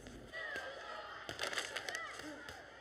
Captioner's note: kids cheering in distance